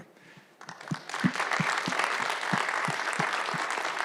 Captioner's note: audience applauds